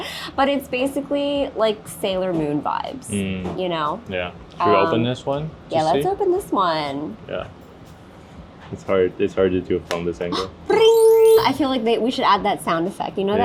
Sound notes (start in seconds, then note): 10.8 sparkling sound